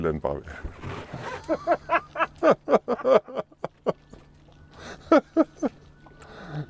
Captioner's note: laughter